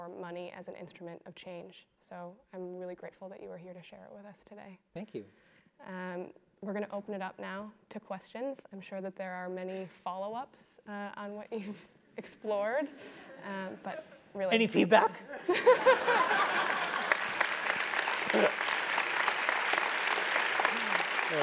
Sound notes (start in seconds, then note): 16.1 laugh; 18.6 applause